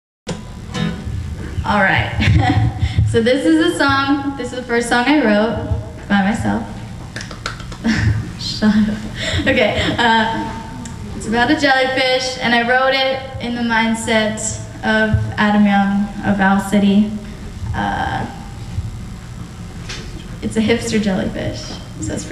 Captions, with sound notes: Alright, So this is a song This is the first song I wrote by myself [sarcastic clapping] Shut up, ha ha, okay, ah It's about a jellyfish and I wrote it in the mindset of Adam Young of Owl City It's a hipster jellyfish, so it's pretty cool